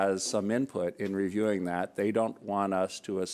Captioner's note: none